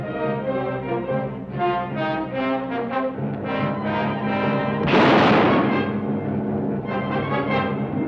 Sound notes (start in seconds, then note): 4.8 gun fires